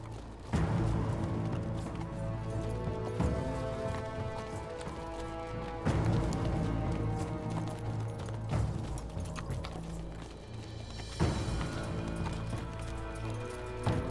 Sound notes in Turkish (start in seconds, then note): 0.1 Müzik - Gerilim; 5.7 At nalı sesi; 8.3 Müzik - Gerilim